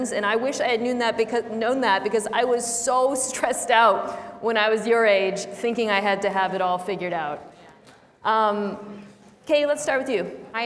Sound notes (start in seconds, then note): none